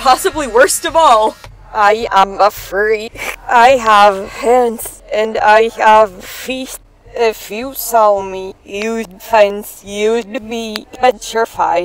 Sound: speaking with reversed audio

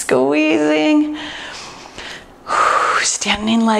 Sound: breathes deeply

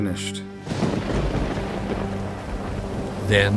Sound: thunder cracking

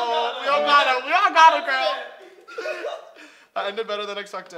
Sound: laughter

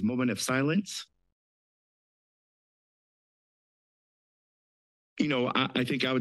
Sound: silence

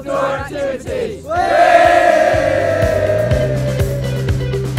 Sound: cheers

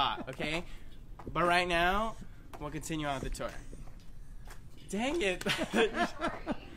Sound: laughter

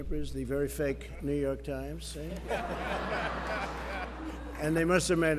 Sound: laughter

